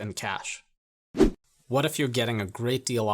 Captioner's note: air whooshing